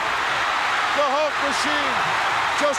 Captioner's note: crowd cheers